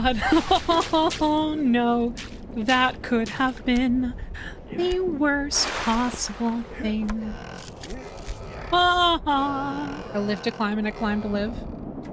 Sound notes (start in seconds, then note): 2.5 sing-Songy